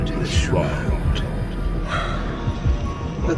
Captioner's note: godly exhale